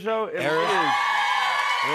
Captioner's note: cheers and applause